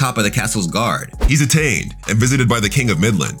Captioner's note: air whooshing